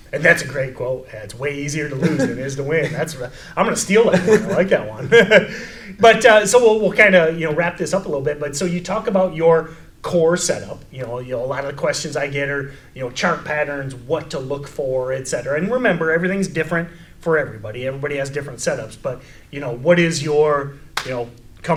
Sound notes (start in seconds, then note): 1.9 laughs; 4.0 chuckles